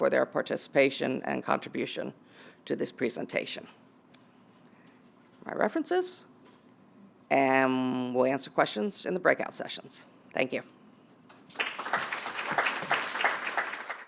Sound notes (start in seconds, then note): 11.4 applause